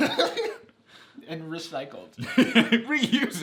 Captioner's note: laughs; laughs